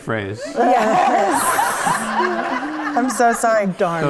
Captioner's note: audience laughs